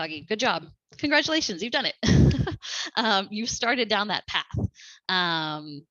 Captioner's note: laughter